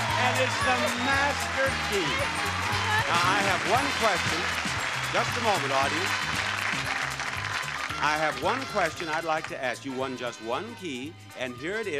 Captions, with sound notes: and it's the master key. Thank you so much. Now I have one question. (audience applauding) (upbeat music) Just a moment audience, I have one question I'd like to ask, you won just one key and here it is,